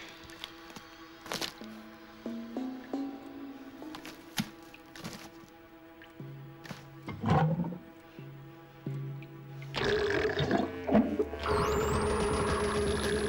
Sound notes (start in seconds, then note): 11.0 <i> loud gurgle</i>